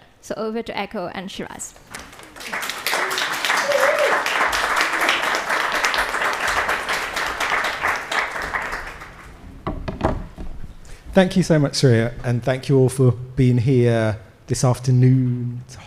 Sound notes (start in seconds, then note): 2.2 attendees applaud; 2.4 attendee cheers; 3.7 attendees applauding